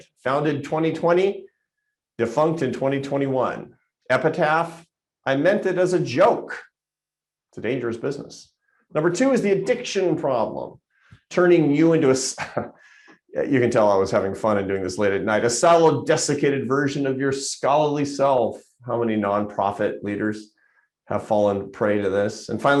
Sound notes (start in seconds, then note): 12.3 chuckles